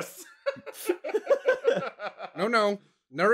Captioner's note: laughter